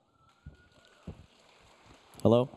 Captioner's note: audience applauding